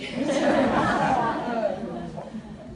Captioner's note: laughter